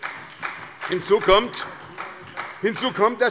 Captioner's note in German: Beifall bei der SPD